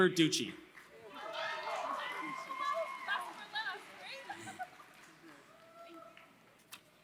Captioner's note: applause